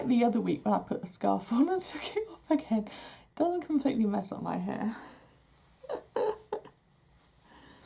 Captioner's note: laughs